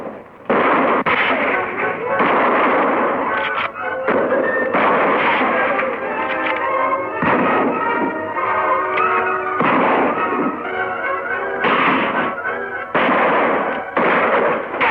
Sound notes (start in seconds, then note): 1.2 gunshots firing